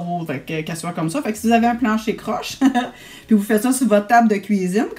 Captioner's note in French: rire